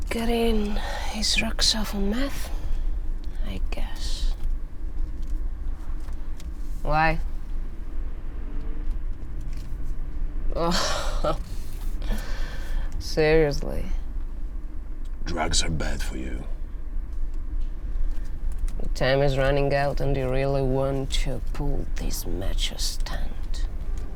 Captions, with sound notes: - Getting his drugs off of meth, I guess. Why? Ugh. Seriously? - Drugs are bad for you. (car engine revving) - Your time is running out and you really want to pull this macho stand.